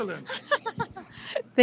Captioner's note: laughs